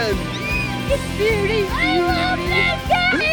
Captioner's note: cheers